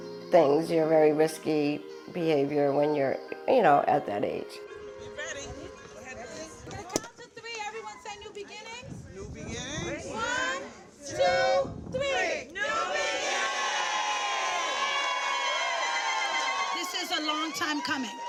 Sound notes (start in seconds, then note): 12.5 crowd